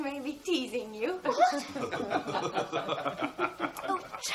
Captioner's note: laughter